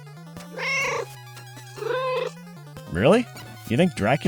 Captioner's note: meow, meow